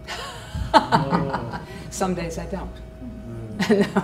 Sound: laughs

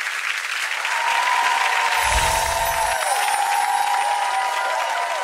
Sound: audience applauding; audience cheering

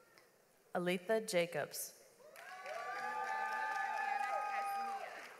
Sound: audience applauds

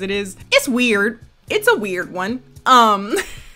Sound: laughs

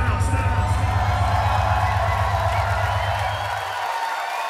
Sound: audience cheering

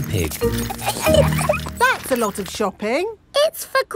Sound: laughing

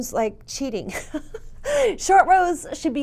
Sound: laughs

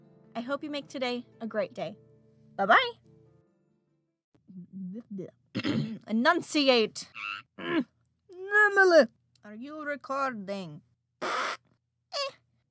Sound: bloopy Noises

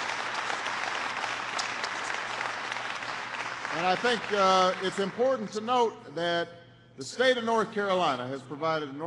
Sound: applause

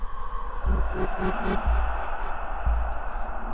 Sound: ghostly voice

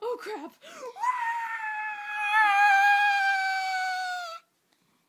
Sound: screaming

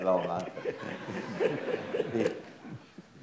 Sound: audience laughs

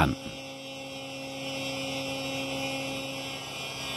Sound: whirring

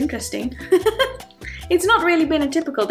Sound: chuckles

